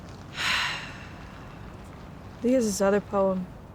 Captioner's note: sighing